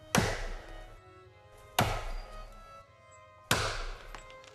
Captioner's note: chopping